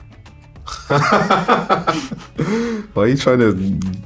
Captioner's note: laughs